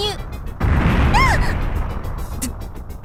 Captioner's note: panicked cry